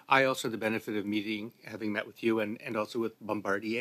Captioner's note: speaking French